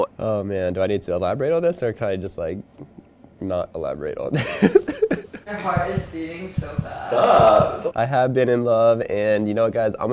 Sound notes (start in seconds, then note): 4.3 laughing; 5.6 heart beating